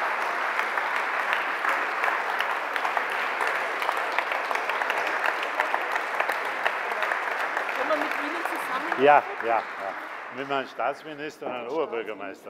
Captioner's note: Applause from the CDU/CSU and the Alliance 90/The Greens